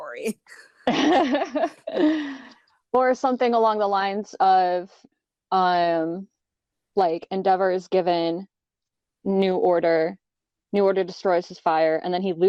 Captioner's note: laughter